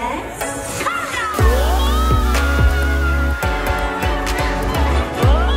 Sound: shouting excitedly

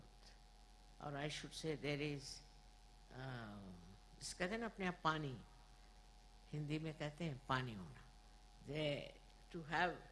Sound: mother speeks Hindi

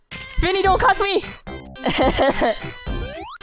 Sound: laughs

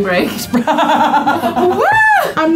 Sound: laughs

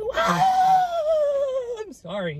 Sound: screaming

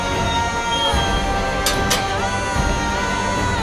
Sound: door closes

